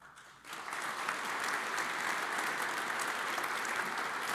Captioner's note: audience applauds